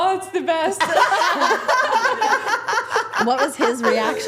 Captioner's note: everyone laughing